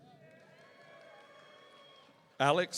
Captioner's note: audience cheering